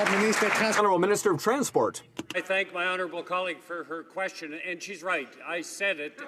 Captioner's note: applause